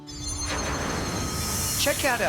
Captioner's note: air whooshing